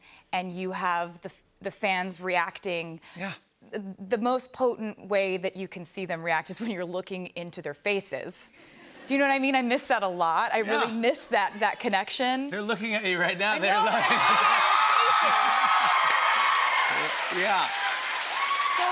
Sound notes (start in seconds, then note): 13.7 cheers and applause